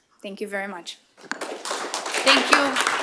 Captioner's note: applause